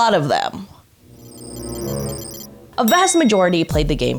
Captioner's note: suspenseful music; logo beeping